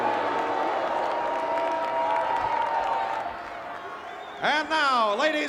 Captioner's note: applause